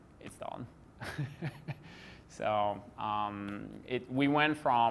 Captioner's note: laughs gently